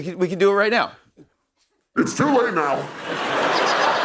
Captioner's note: deepened voice